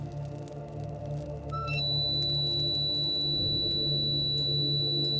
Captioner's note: blows whistle